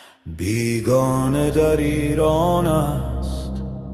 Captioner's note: non-english speech